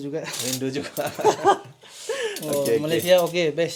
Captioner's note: laugh